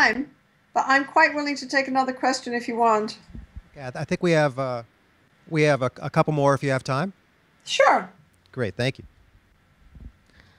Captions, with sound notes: but I'm quite willing to take another question if you want. - [Voiceover] I think we have a couple more if you have time. - Sure! - [Voiceover] Thank you.